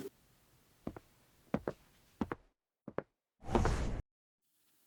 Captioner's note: distant Footsteps